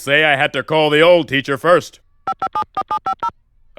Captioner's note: phone dials